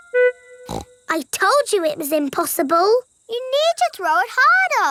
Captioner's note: snorts